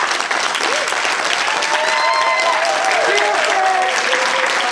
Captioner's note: applause